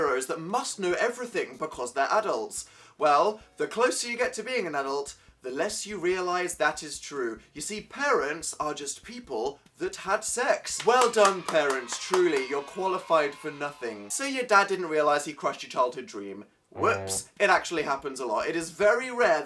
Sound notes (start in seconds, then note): 10.7 claps; 11.0 yay sound effect; 16.7 honk sound effect